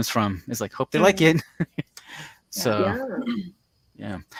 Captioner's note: laughs